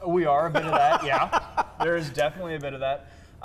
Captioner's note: laughs